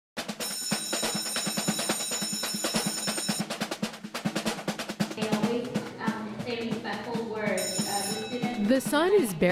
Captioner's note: school bell